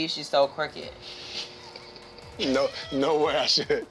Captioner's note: both laughing